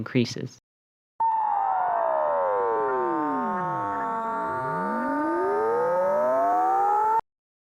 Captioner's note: sound gets lower then higher again